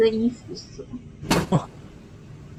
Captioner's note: 1006 knocks angrily